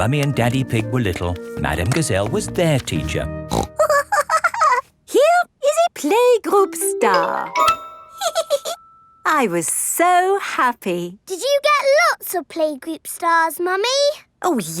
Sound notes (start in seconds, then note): 3.5 snorts and giggles; 8.2 giggles